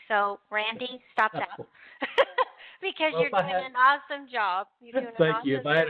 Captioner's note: laughs